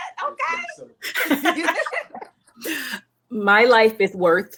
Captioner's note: ladies laughing